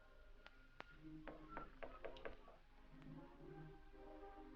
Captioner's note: knock at door